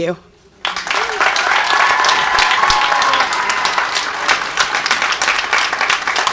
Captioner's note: audience cheers and applauds